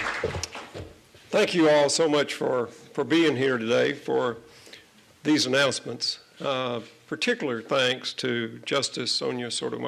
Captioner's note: applause